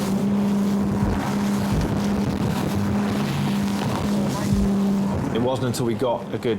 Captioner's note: engine revs; water slams